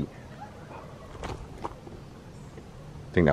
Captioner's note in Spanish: sonidos de graznido